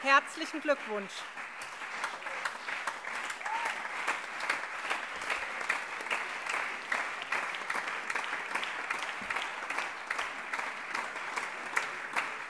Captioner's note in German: Allgemeiner Beifall